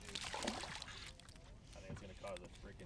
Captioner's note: fish splashing